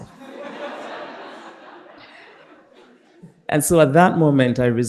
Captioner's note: participants laughing